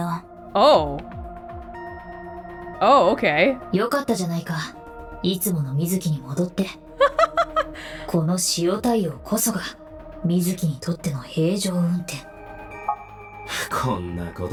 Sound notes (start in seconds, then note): 7.0 chuckles